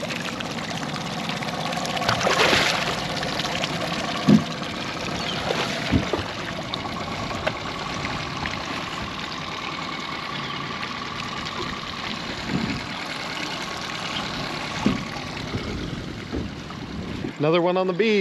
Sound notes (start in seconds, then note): 0.2 reel cranking; 2.9 fish splashing; 4.8 boat enging idling